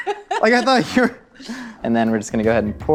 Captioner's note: laughter